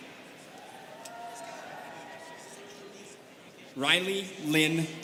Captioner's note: students cheering